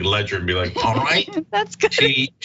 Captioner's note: laugh